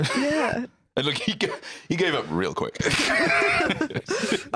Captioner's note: laughs